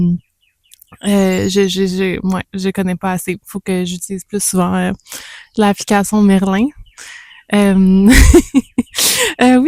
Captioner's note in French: rires